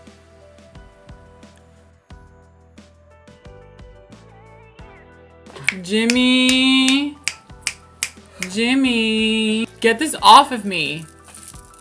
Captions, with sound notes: Jimmy *snaps* Jimmy *snaps* get this off of me